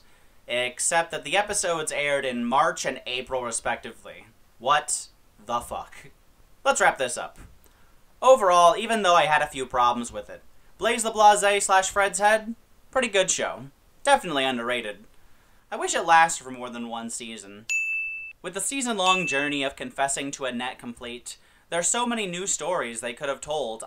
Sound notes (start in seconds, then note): 17.7 ding